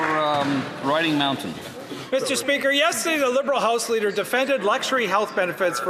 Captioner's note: some Applause